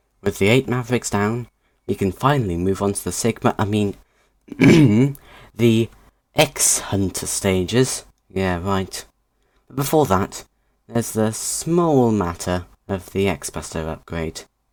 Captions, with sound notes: With the eight Mavericks down, we can finally move on to the Sigma-- I mean, *ahem* the 'X-Hunter' stages. Yeah, right. But before that, there's the small matter of the X-Buster upgrade.